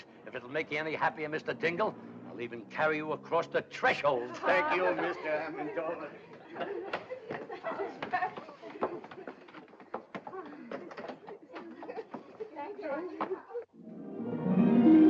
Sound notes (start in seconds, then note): 6.5 joyful chattering; 13.8 dramatic upbeat music